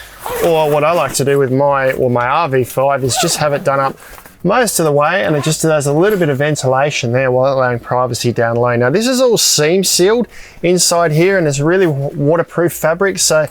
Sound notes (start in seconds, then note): 3.0 zipper squealing